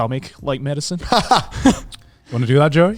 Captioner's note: laughing